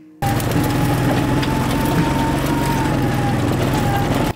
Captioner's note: loud engine